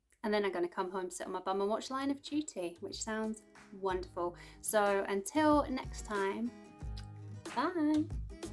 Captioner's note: kiss